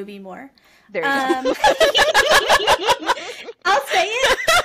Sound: laughter

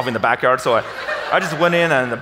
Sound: audience laughs

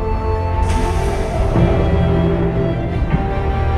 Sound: distant howl

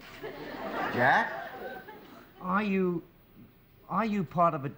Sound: laughter

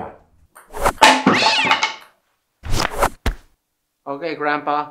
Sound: paddle clunks; cat shrieks

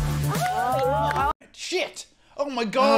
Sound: contestants cheering

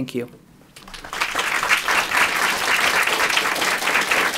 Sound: applause

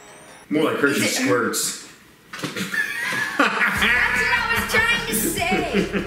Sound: laughs

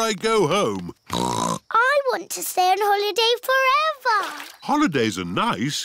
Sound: snorts

